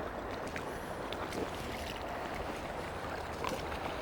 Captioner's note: splashing